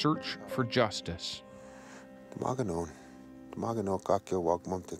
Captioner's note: speaking cree language